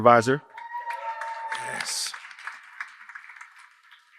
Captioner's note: cheers and applause